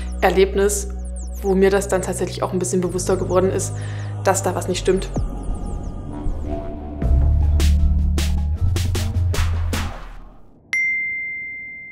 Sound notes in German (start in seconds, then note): 6.1 Dröhnen; 7.4 Treibende Musik; 10.7 Klingeln